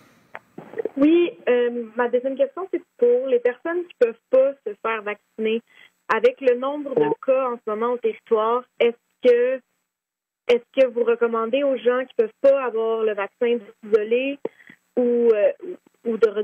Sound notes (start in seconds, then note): 3.0 speaking French